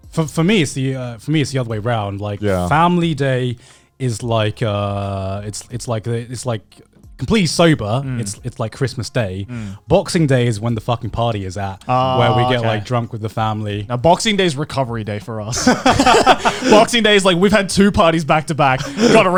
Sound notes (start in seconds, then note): 15.5 both chuckling